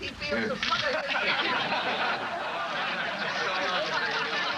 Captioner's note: audience laughing